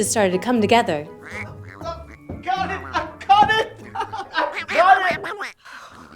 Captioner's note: quacking sounds